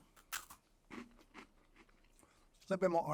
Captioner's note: crunches